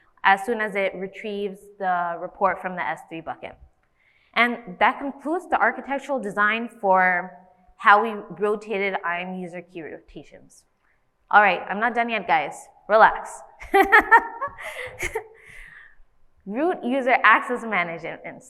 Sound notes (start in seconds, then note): 13.6 laughs